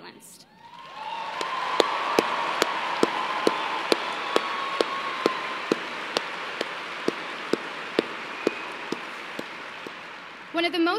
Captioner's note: cheers and applause